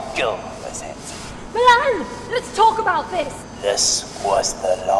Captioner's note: peaks mic